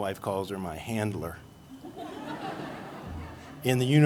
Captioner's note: laughter